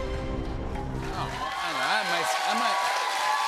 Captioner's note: cheers and applause; normal voice